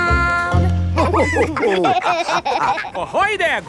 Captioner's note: all laughing